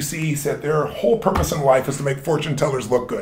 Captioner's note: none